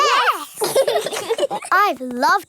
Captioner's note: laugh